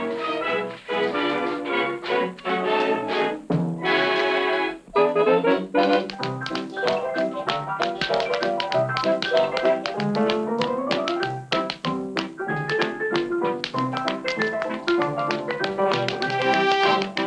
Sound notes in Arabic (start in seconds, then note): 3.7 موسيقى أوركسترالية مبهجة; 6.1 صوت نقر الأحذية